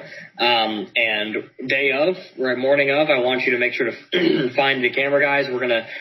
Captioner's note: clears throat